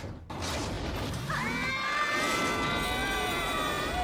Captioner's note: screams